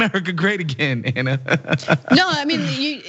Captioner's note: laugh